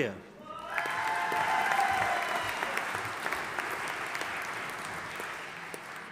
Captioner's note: audience applauding and cheering